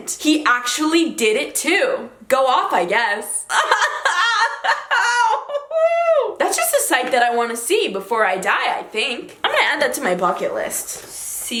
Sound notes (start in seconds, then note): 3.5 laughs